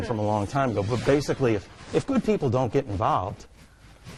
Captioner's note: scene whooshing